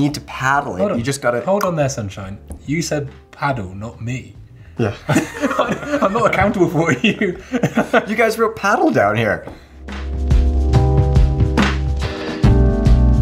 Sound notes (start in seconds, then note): 1.1 clicking; 5.0 laughing; 9.4 slow beat music